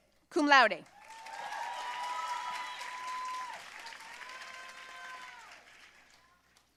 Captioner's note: audience cheering and applauding